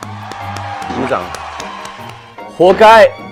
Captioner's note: All fans of "Unchained Love" cheering